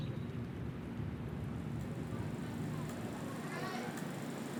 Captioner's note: Bolex camera rolling